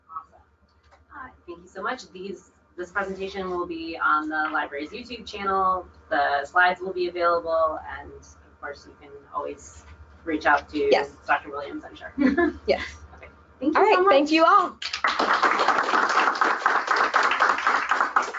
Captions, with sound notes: Thank you so much! This presentation will be on the library's youtube channel, the slides will be available and of course you can always reach out to Dr. William I'm sure. Yes thank you all! [Applause]